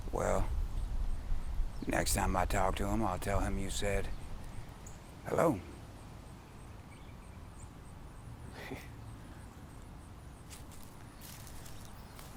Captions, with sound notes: - Well, next time I talk to him, I'll tell him you said hello. (Terry chuckles)